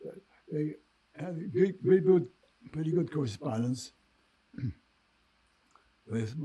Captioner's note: clears throat